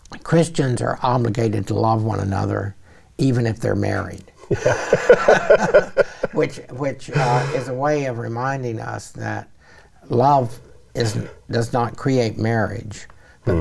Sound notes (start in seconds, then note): 4.4 both laugh